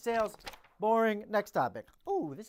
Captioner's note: paper flapping